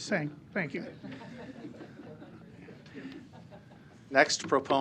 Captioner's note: laughter